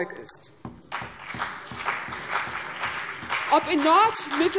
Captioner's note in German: Beifall CDU und BÜNDNIS 90/DIE GRÜNEN